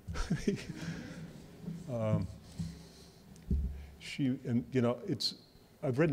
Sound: laughs

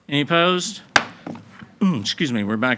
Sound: gavel bangs

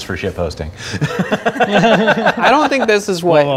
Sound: laughing

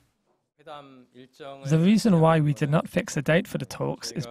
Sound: Korean

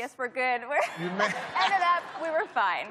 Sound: laughs

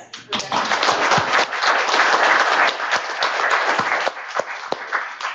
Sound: applause

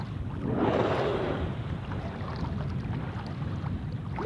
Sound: whale blowing

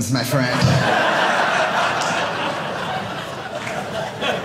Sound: audience laughing

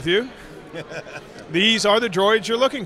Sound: laughter

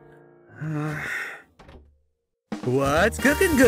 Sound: frustrated grunt

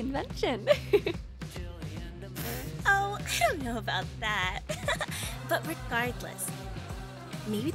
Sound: chuckles

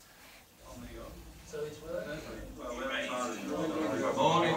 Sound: chatter

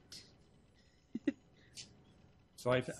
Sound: spokeswoman giggles

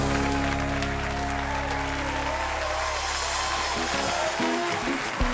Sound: cheers and applause

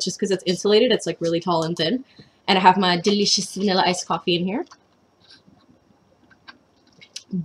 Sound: takes sip

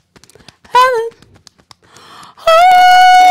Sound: beating Chest

